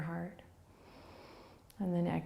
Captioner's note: inhaling